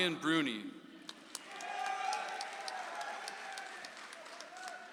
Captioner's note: audience applauds